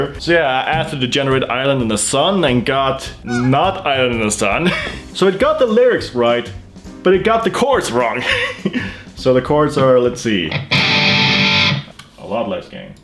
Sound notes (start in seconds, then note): 8.1 laughs; 11.4 chord